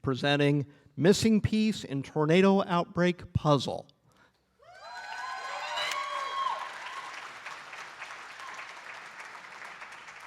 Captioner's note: applause